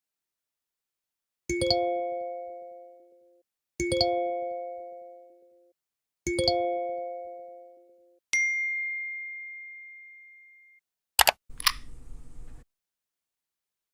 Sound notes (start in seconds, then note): 1.5 notification Ring; 11.2 mouse Click; 11.2 unlock Sound